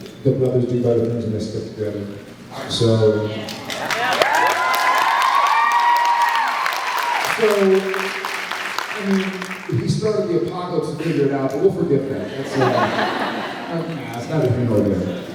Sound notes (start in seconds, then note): 3.6 cheers, applauds; 8.6 applauds; 12.3 laughs